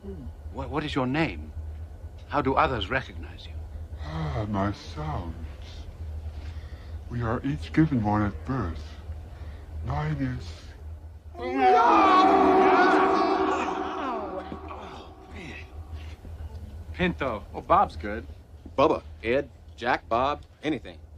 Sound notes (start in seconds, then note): 12.7 growling